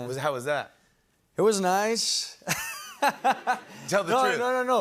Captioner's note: laughs